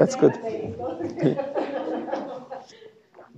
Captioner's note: laughs